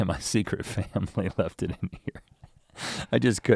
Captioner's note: chuckling